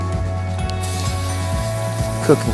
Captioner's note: spraycan hissing